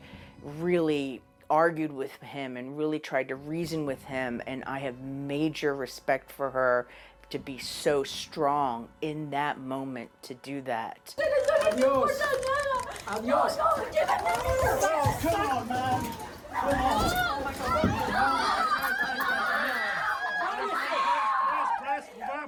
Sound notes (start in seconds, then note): 19.4 Gritos